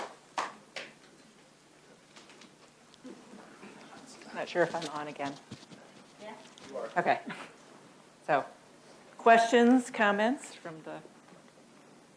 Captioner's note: laughs